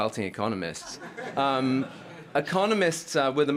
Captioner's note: laughter